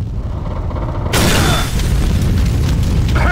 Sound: loud explosion

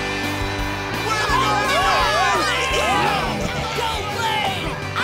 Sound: cheering

